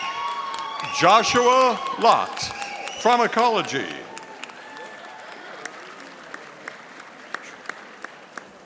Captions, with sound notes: Joshua Lot, Pharmacology, (audience applauding)